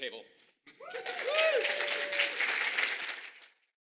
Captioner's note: audience applauding